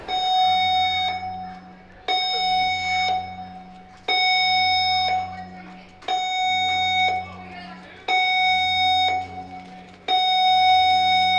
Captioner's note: emergency Alarm